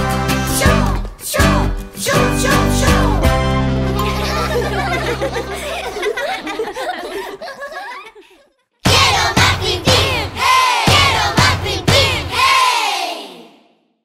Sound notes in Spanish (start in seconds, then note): 3.9 Risas